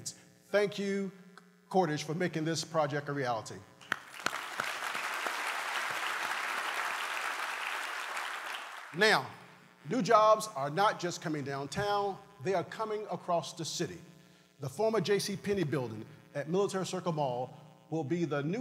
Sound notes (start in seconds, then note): 6.5 applause